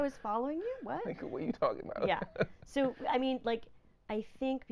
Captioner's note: laughing